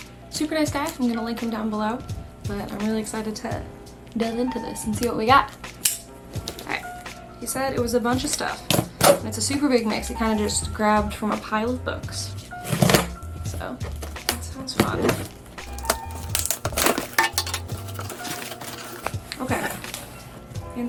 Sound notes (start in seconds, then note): 5.8 knife clicks; 15.6 box opening